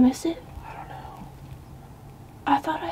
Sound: whispering

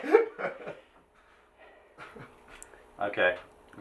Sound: laughing

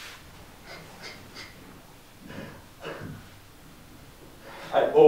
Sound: muffled sobbing

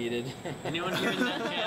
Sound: laughter

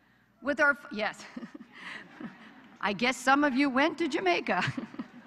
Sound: laughter

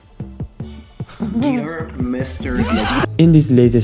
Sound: laughs

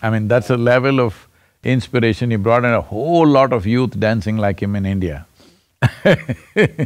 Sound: laughs

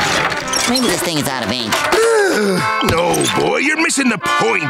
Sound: sighing

